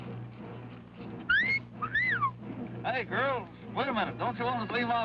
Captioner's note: wolf whistle